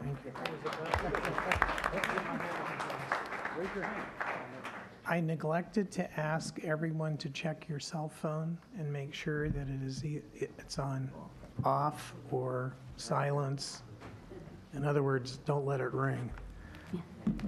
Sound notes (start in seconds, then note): 2.9 applause